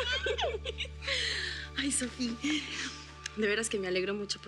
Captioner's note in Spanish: risas